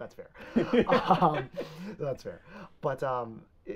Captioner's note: both laughing